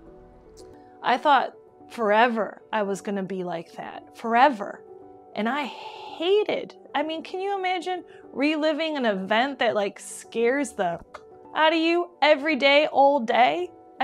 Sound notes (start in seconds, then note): 10.8 click